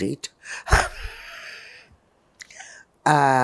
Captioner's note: laughing